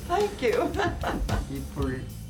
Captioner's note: laughs